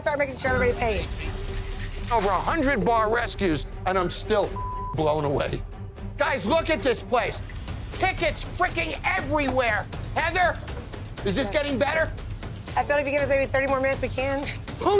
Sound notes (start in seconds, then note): 4.5 beeping